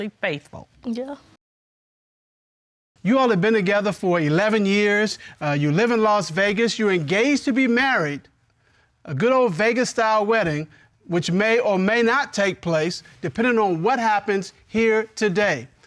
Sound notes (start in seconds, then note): none